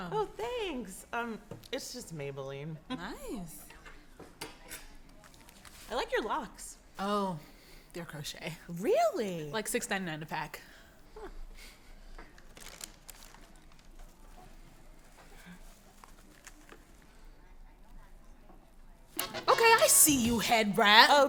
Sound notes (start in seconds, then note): 12.4 bag crinkling; 19.2 energetic music